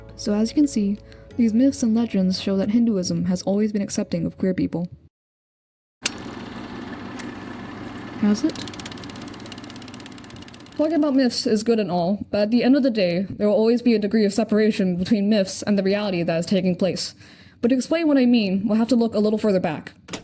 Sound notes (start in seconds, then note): 6.0 sound of projector whirring